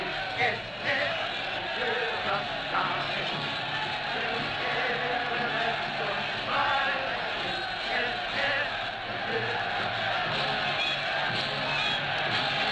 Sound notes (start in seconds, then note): 0.0 cheering crowds, marching music